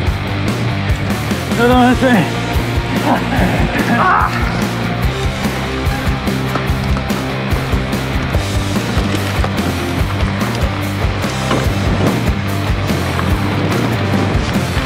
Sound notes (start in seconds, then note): 3.8 laughs; 4.3 gasps